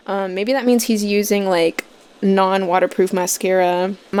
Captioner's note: none